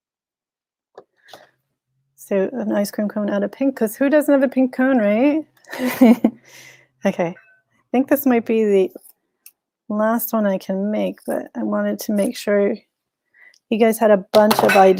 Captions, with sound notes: So an ice cream cone out of pink, 'cause who doesn't love a pink cone, right? (chuckles) Okay, I think this might be the last one I can make but I wanted to make sure you guys had a bunch of ideas